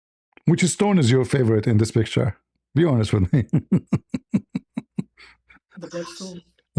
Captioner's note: laughter